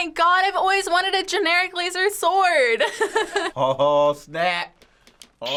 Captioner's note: laughs